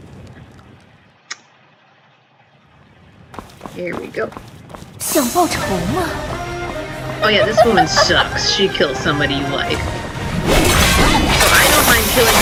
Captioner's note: Mandarin